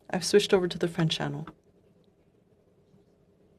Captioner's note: speaking French